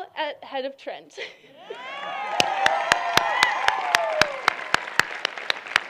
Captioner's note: cheering